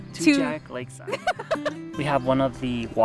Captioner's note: laughs